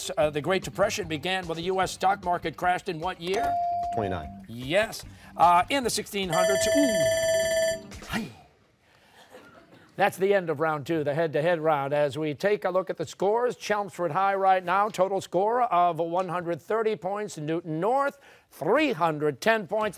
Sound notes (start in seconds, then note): 6.3 bell ringing